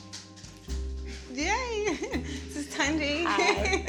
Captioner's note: laughing